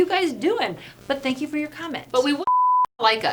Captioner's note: beep